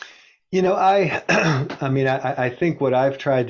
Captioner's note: clears throat